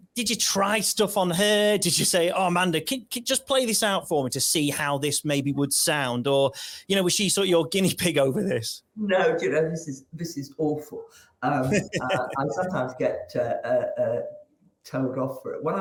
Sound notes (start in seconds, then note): 11.6 chuckles